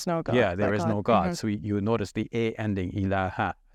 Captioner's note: speaks in foreign language